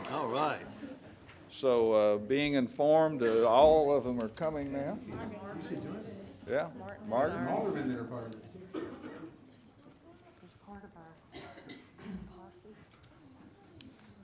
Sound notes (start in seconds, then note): 0.0 laughing; 8.6 coughing